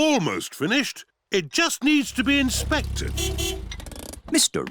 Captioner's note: horn beeps